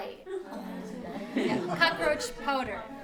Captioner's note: laughter